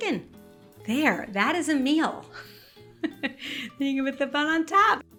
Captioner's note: chuckling